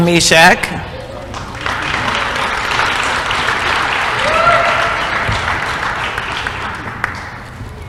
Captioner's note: applause